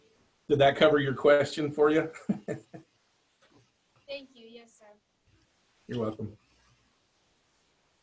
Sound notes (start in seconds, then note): 2.0 laughs